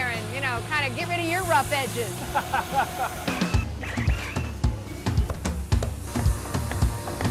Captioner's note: laughter